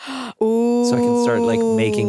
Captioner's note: gasps